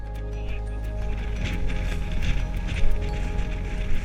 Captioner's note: wind rustling